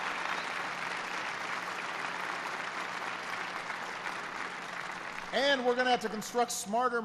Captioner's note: applause